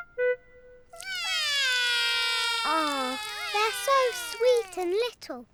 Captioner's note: both whinny; both wail